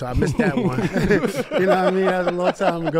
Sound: group laughs

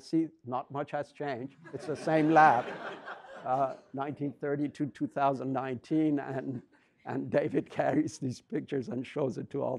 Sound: audience laughs

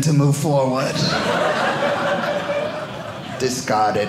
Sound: audience laughing

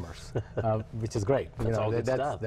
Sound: chuckling

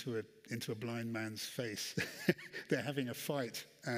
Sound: laughs

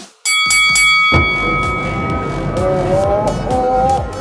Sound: bell ringing

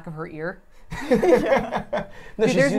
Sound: laughs

